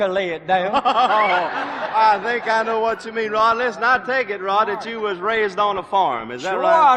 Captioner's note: laughing